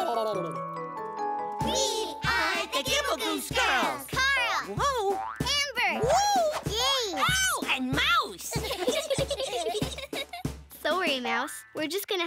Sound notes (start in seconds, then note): 8.5 giggling